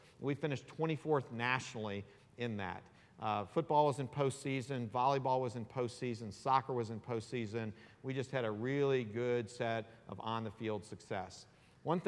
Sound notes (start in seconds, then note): none